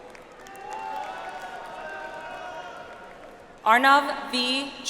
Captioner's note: audience applauds